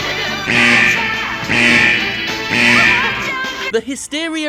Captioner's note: buzzer blaring